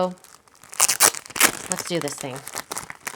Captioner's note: wrapper squeaks